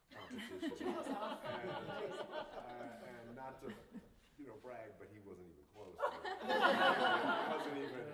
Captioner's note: laughter; laughter